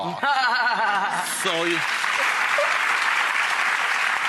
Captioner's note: laughing, applause